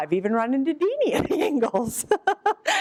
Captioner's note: laughs